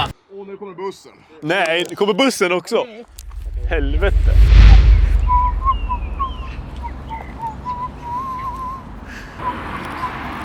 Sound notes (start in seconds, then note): 5.4 dope whistling sound